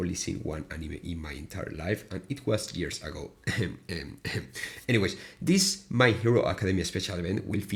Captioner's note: ahem